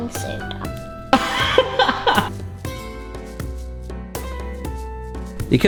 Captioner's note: mellow melodic music; laughing